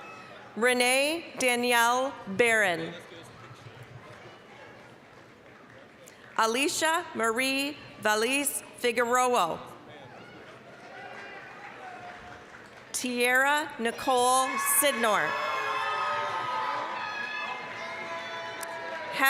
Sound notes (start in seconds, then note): 0.0 applause, cheering; 3.1 applause; 10.0 applause, cheering; 15.1 applause, cheering